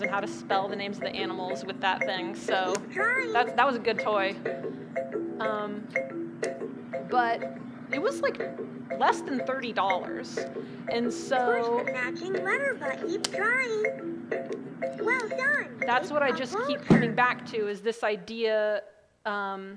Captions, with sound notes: and how to spell the names of the animals with that thing. So that was a good toy. But it was less than $30, and so-- - [Electronic Voice] Push the matching letter button. Keep trying, well done! - That's what I just keep coming back to, is this idea.